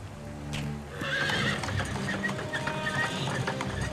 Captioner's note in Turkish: At kişneme sesi